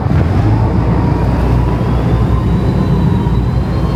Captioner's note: engine rumbles